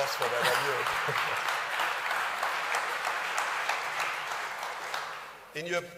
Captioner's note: audience clapping